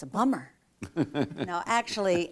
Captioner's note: laughter